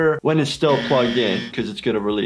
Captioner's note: buzzer buzzes